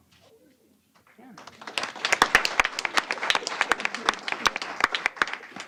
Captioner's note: applause